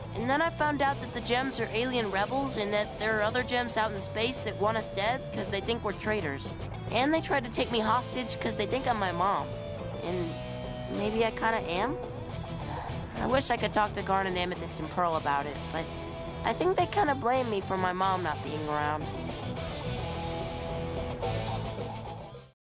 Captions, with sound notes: And then I found out that the gems are alien rebels and that there are other gems out in space that want us dead, cause they think we're traitors And they tried to take me hostage cause they think I'm my mom. And... maybe I kinda am? [Sigh] I wish I could talk to Garnet, Amethyst and Pearl about it, but... I think they kinda blame me for my mom not being around [Music fading]